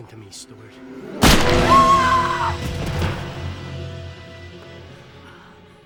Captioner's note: gun bangs; screams